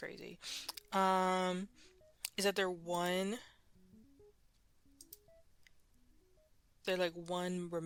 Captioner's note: mouse Clicking